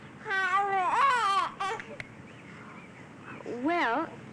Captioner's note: baby fussing